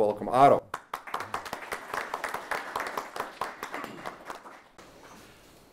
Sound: audience applauds

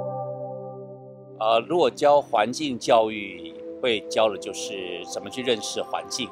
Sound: speaking in Chinese

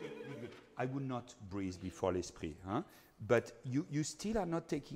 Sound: speaking in foreign language

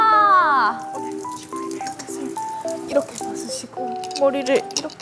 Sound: whispering

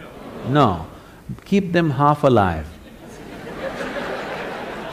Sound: laughter/Applause; 笑聲/掌聲

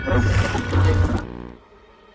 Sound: radio feedback

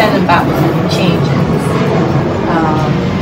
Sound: airplane passing, oof

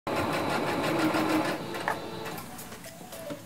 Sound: machine whirring

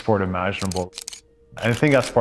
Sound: camera shutter clicking

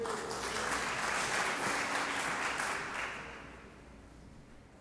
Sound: audience applauding

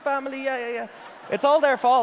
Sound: audience laughing

